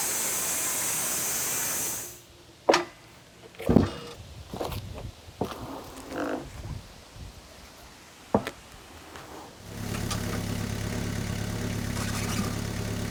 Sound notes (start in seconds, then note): 3.6 slab thumping; 9.6 engine rumbling